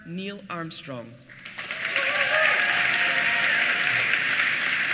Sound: applause

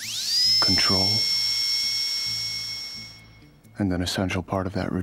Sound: drill whirring

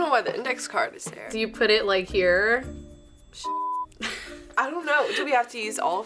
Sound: laughs

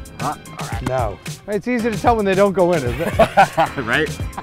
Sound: laughs

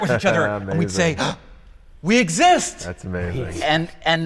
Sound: gasping

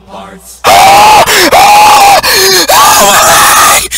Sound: inhuman screaming

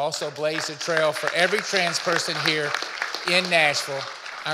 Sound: audience applauding

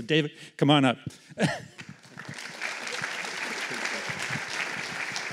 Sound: applause

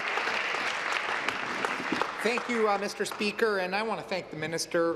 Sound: applause

